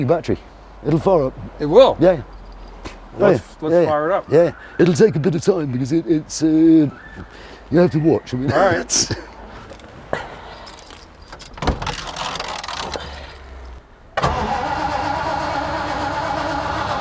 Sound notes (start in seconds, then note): 9.6 laughing; 11.3 door closing; 12.4 metal cranking; 14.3 car starting